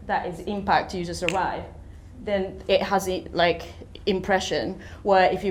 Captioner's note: fingers click